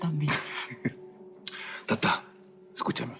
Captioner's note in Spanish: Aurelio se ríe